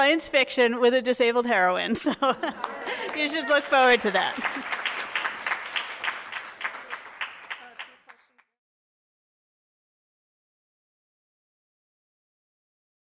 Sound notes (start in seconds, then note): 2.5 audience cheers and applauds; 4.8 audience applauding